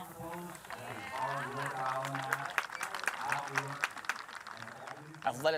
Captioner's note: audience applauds